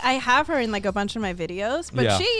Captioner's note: hosts laugh